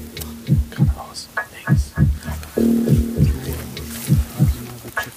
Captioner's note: Flüstern